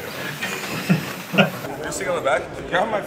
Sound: men laugh

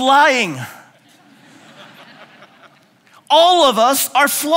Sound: laughing

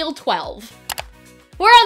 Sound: click

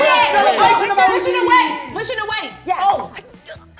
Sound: bell dings

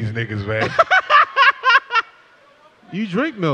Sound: laughs

